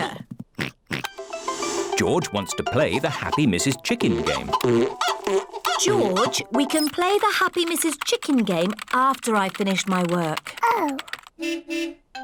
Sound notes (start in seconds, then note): 0.0 oinks; 4.4 chicken clucking; 11.4 car horn beeps